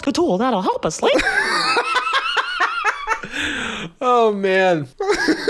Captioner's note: laughs